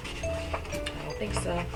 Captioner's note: speaks softly